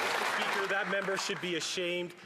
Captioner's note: some Applause